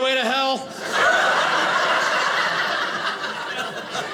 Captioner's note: audience laughing